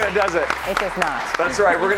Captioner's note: applause